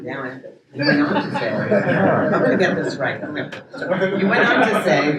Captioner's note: audience laughs